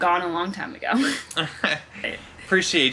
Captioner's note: laughing